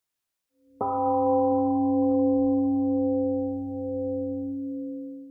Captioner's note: temple gong rings and fades